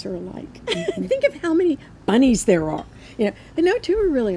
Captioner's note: laughs